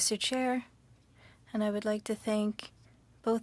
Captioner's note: speaking French